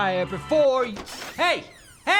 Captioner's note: door opens